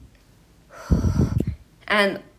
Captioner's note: blows on mic